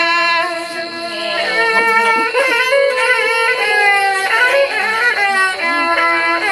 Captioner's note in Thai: เสียงหัวเราะ